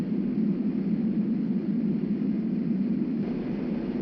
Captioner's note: wind whirring